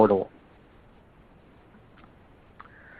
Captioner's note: silence